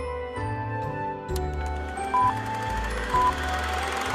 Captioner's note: beeps